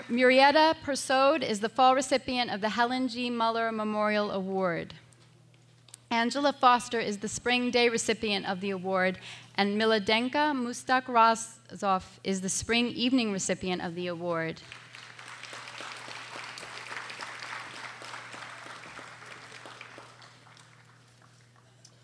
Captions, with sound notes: Murrieta Presode is the Fall recipient of the Helen G. Muller Memorial Award. Angela Foster is the Spring day recipient of the award. And Milla Denka Mustakros is the Spring evening recipient of the award. (scattered applause)